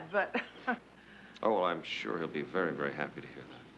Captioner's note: chuckles